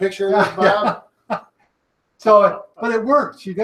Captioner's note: laughing